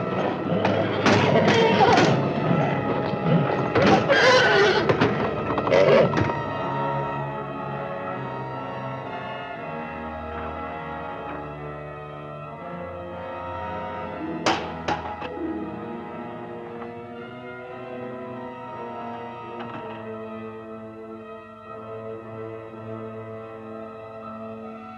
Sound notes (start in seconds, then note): 0.1 horse neighing and grunting; 6.3 ominous music continues; 14.4 window clatters; 21.4 ominous music continues